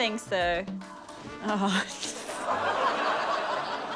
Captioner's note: chuckles